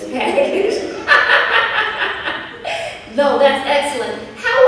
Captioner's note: chuckles